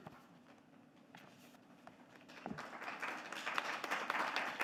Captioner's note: audience clapping